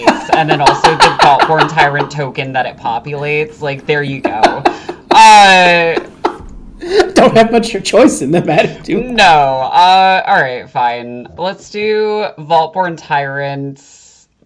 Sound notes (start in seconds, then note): 4.1 laughing